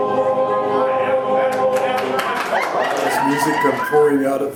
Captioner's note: crowd applauding; women whooping